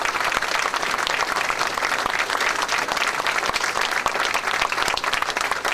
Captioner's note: audience clapping and cheering